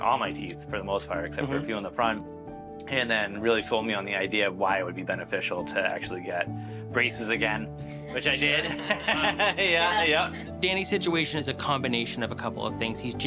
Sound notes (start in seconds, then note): 8.0 laughter